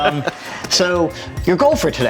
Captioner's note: laughing